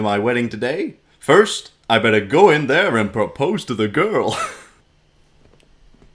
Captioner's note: laughter